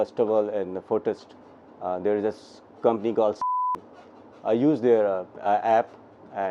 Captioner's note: beep